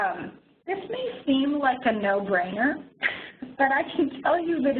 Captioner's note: chuckles